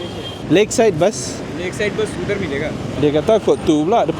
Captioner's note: speaking Nepali